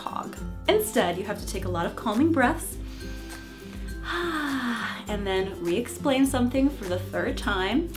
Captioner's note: breathes